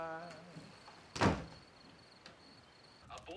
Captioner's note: door slamming